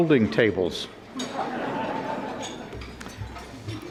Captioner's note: audience laughing